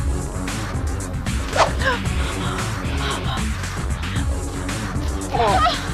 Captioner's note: gasp; whipping